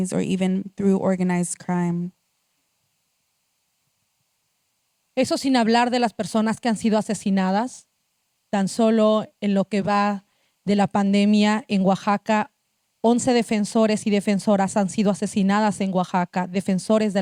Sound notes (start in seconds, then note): 7.6 speaking Zapotec language